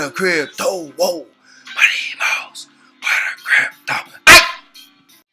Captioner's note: whispers